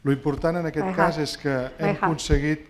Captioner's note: speaking spanish